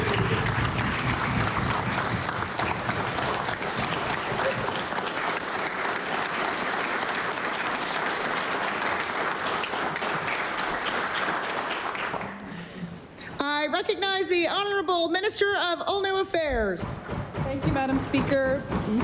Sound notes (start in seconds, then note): 3.8 cheering & Applause